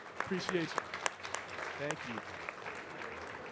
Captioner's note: audience clapping